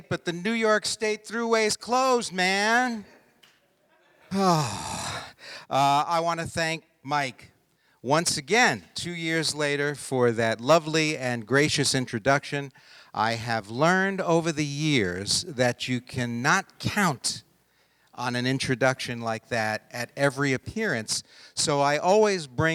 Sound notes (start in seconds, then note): 4.3 sighing